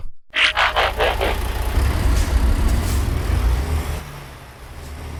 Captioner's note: fading truck noises